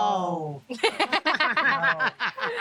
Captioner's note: interviewees laughing